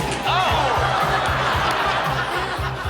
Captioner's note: all laughing; chair crashing